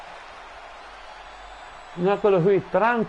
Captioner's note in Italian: Applauso